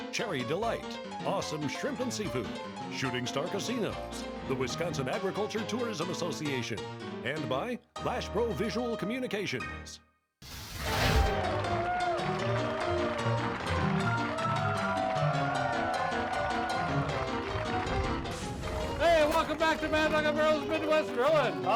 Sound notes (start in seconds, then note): 10.3 lively piano music; 10.4 fire whooshing; 11.3 audience cheering; 11.4 audience applauding